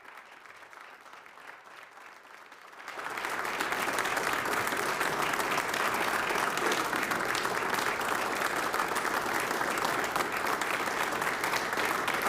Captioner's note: applause